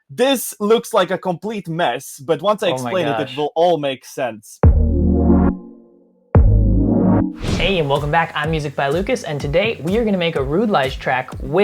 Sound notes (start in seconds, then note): 5.8 whooshing